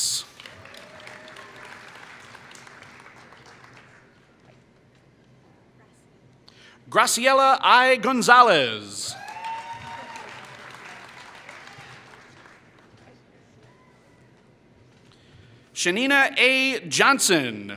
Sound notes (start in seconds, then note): 0.1 applause; 9.1 applause